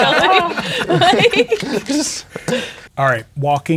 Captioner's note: players laughing